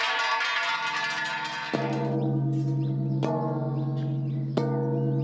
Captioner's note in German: helles, metallisches Klappern; tiefer und hoher Gong